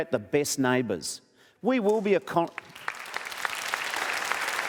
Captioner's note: applause